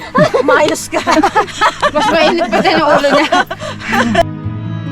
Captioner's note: all laughs; dramatic music